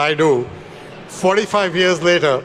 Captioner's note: attendees laugh